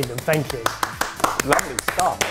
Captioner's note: crew clapping